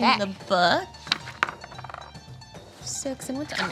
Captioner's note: dice roll